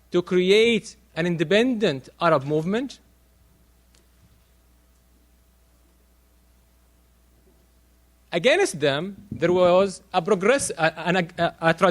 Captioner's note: silence